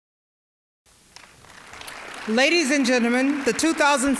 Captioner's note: applause